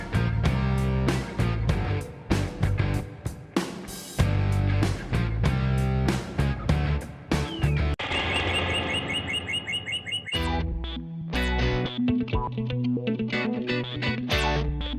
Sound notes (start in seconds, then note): 7.4 J$J Birds chirping